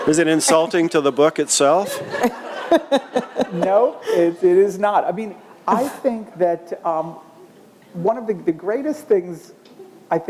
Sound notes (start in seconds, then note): 0.0 laughter